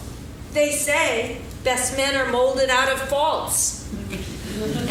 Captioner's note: laughing